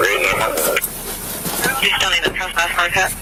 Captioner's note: officer On Radio